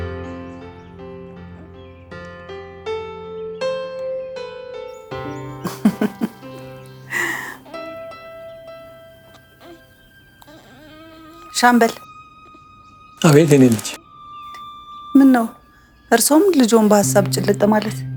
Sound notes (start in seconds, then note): 5.6 laughter